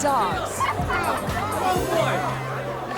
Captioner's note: crowd giggles